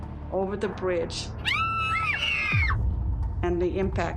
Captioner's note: screams